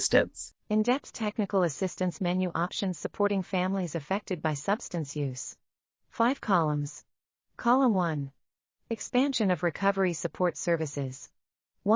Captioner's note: audio Description being read